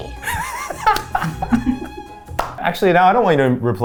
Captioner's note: everyone laughing